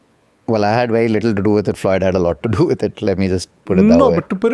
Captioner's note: chuckles